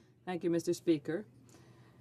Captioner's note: speaking French